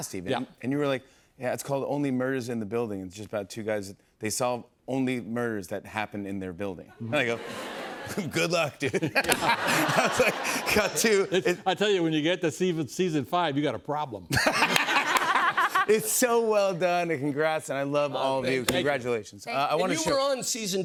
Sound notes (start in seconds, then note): 8.9 laughter; 14.3 laughter